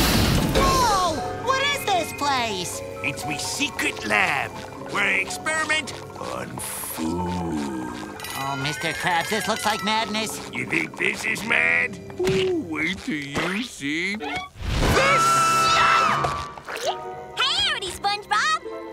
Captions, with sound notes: Whoa! What is this place? It's me secret lab where I experiment on food. Oh, Mr. Krabs, this looks like madness. You think this is mad? Ooh, wait til you see this! [screaming] Yikes! Howdy, SpongeBob.